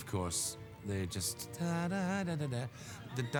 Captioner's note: hums